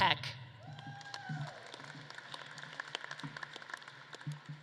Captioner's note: audience claps and cheers